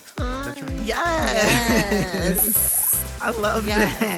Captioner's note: panelists laughing